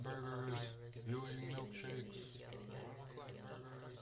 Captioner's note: crowd